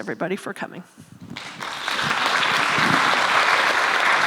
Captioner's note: applause